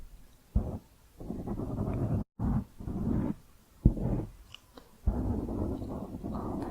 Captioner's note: piecey mic scratching